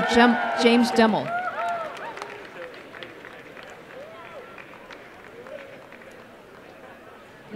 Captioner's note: applause